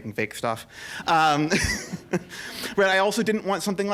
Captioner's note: laughter